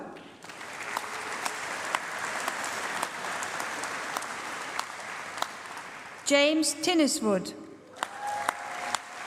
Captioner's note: applause; applause